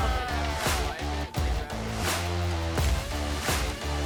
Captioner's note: all cheering, roaring